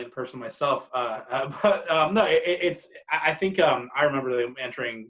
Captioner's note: chuckles